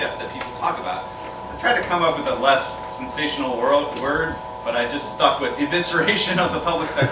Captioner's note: laughter